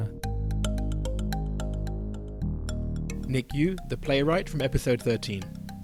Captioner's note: voiceover